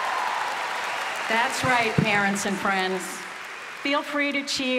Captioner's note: applause